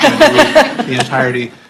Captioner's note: laughter